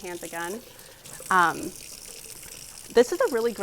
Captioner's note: water drizzles